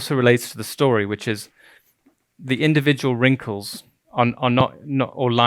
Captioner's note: stuttering